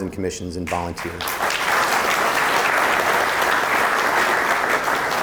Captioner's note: audience applauding